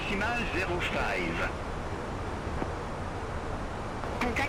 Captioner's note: radio chatter